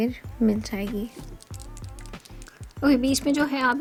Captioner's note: rattles the pen